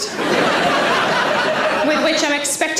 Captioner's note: audience laughs